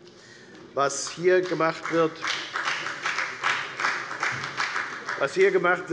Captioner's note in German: Beifall bei der FDP